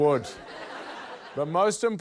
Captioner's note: laughter